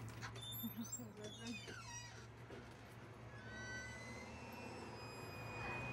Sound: door creaks

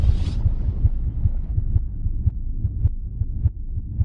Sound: heartbeat

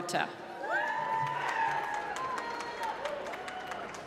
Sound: applause

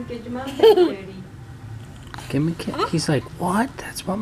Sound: laughter

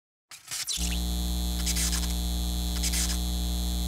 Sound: sign buzzing

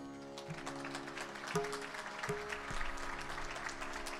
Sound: audience applauding

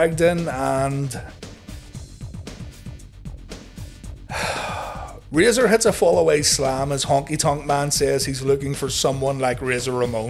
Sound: sigh

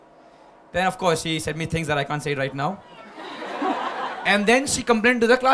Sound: few laughs

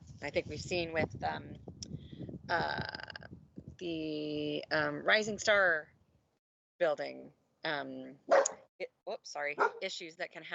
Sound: dog barking

